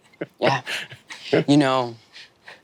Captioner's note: Lou laughing